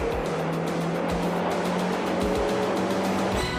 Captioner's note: roaring motors